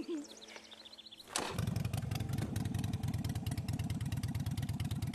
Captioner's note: motorcycle starts